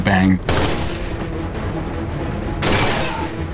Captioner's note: gun firing